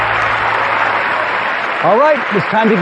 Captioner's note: cheering and applause